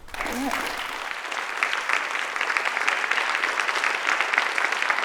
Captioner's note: applause